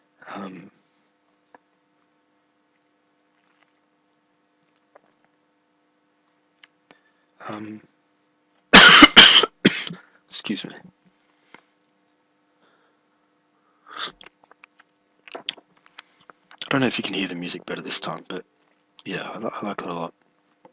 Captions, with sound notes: Uhm Um [coughing] 'Scuse me [tea slurping noise] [swallowing] I don't know if you can hear the music better this time, but Yeah, Ilike it a lot